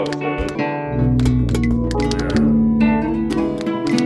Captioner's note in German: feine Wohlgeräusche